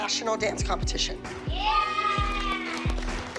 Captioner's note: girls cheering